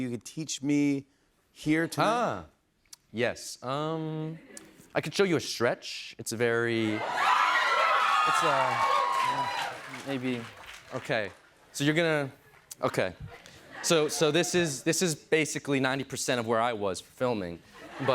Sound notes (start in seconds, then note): 6.8 cheers and applause